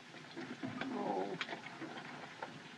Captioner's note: Buck Whimpers